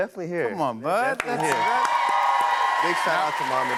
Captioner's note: cheers and applause